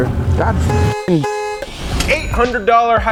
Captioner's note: upbeat music; honking